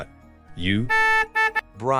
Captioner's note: beep